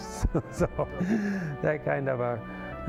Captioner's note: laughing